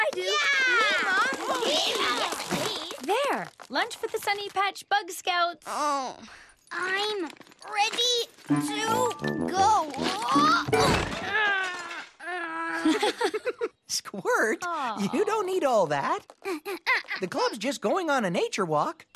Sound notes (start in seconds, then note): 6.1 groans; 9.9 struggles; 12.7 giggle; 16.7 struggles